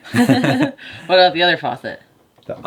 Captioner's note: laughing